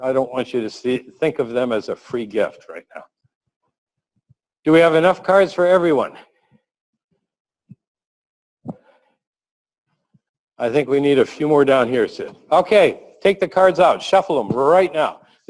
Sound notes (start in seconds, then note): 7.0 pause